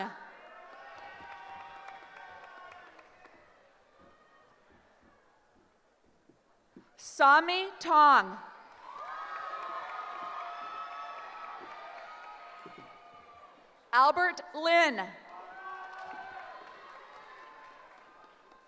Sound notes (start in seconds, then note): 0.2 cheering; 8.5 cheering